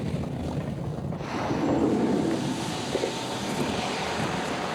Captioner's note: car door slides open